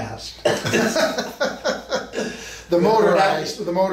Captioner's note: both men laugh